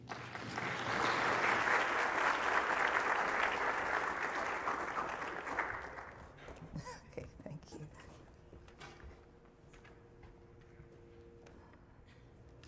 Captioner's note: applause